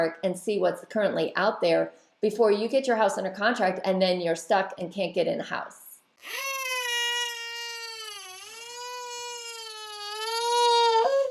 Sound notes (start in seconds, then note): 6.2 baby crying